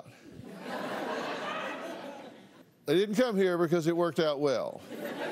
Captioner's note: laughter